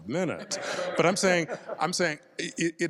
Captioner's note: panel laughs